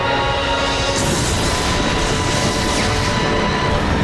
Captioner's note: thundering